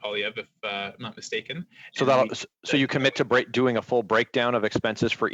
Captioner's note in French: voix de l'interprète